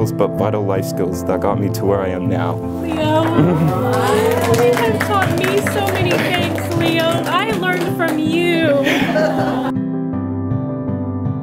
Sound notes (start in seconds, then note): 2.8 clapping; 9.6 laughs